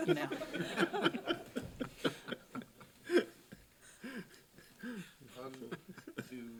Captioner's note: laughing